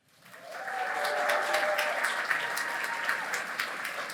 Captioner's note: cheering